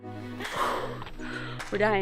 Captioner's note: exhales sharply